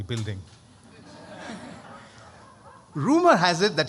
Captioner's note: laughter